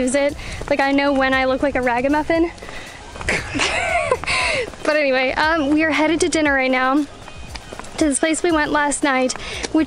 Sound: laughter

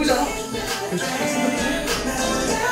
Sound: hahaha

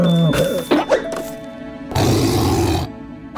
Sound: grunting

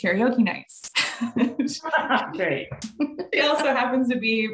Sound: laughs

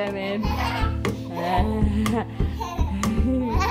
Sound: laughing

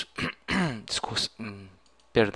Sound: coughing

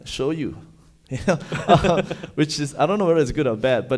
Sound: laughing

